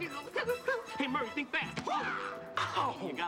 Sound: makes karate noises

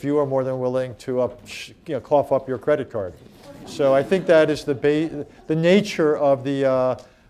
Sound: laughter

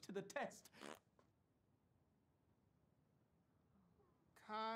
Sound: Zach farts

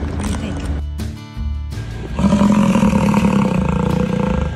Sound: buffalo grunts

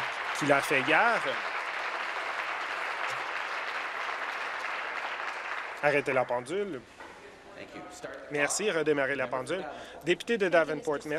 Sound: applause

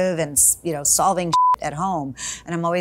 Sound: beep noise

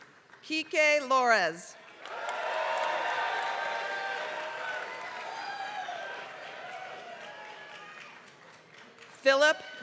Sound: applause

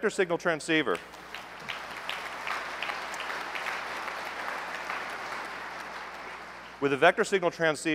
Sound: applause

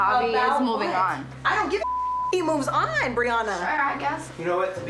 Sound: beep

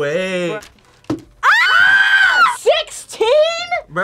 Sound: both scream

